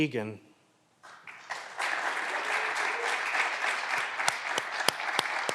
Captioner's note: clapping continues